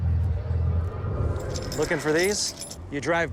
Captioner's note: keys jingling